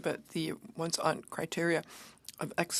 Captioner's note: speaking French